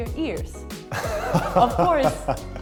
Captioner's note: lacht